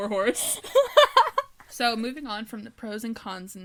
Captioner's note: laughter